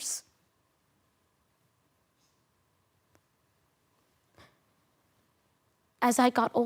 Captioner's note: soft sniffing